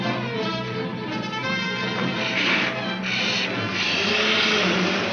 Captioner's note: car engine revs